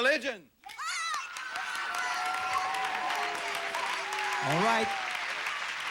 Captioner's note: audience applauding